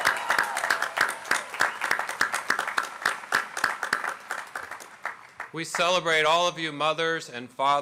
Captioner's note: applause